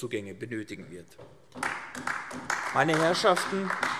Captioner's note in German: Beifall AfD